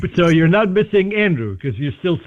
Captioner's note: laughter